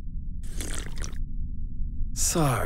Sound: slurps

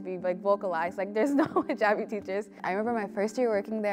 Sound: chuckles

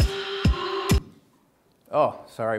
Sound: music stops

